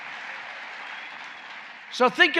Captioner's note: applause